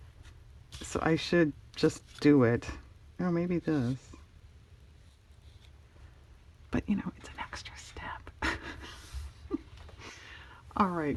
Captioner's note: laughs